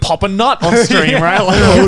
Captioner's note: Garnt laughing